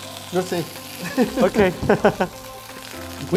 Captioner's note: laugh